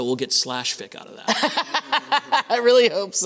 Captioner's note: laughter